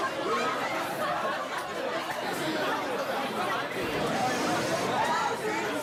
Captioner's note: background chatter